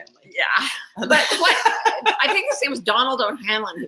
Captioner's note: laugh